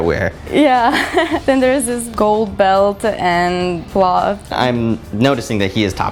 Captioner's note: laugh